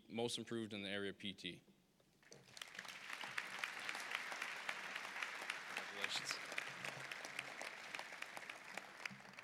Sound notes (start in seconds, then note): 2.3 applause